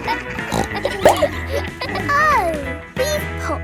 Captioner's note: bleats; neighs; snorts